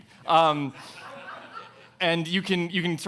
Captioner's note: audience laughing